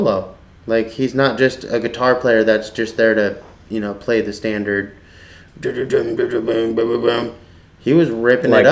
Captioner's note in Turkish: sesi taklit eder